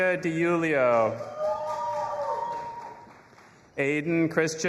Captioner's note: audience applauding and cheering